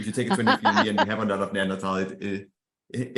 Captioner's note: laughing